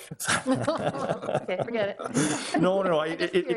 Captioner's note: attendees laughing